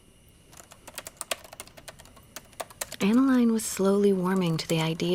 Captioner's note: typing